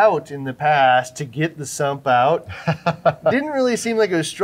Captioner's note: laughing